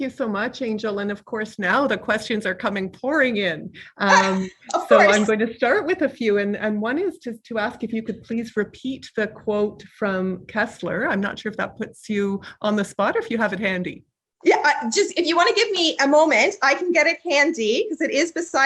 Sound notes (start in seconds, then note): 4.1 laughing